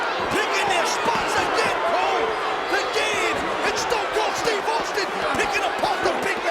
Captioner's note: presenter speaking faintly off mic